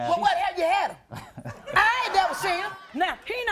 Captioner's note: chuckles